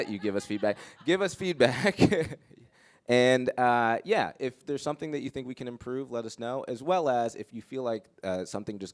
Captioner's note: laughter